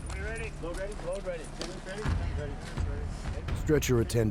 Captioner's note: voiceover